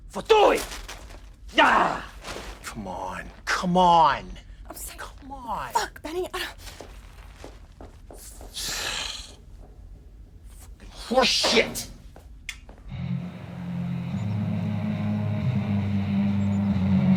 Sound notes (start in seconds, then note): 0.3 Killian yells in foreign language; 7.8 hurried footsteps clacking; 8.6 Benny sighs; 13.0 muffled heavy metal music